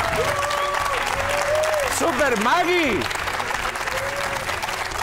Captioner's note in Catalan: aplaudiments